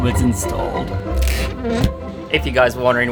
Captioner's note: cupboard creaks